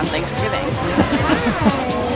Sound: laughter

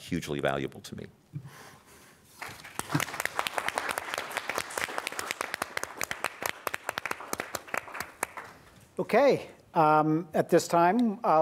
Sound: applause

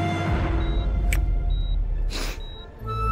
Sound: sniffles

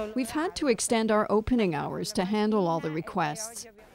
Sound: speaking foreign language

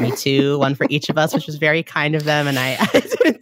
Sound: laughing

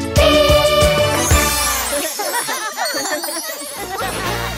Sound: laughs

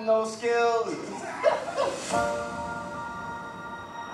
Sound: laughing

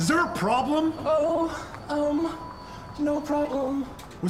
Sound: in robotic voice

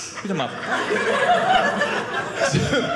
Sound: audience laughing

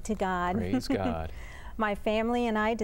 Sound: laughter

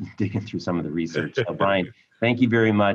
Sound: chuckling

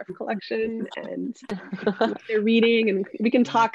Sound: laughing

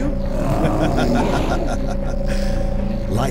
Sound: cackling

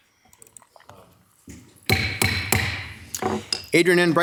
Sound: gavel tapping

